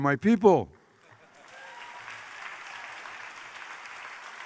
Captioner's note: applause